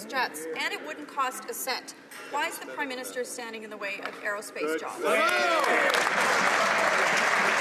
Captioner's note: some Applause